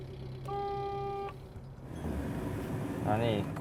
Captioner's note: car horn honks